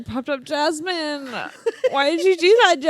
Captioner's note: laughs